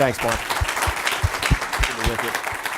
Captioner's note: applause